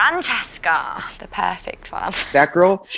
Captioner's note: laughs